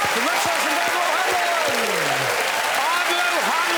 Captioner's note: applause